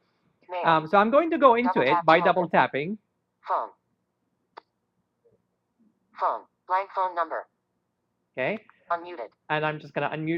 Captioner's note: Siri talking